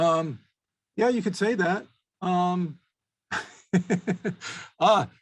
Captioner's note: chuckles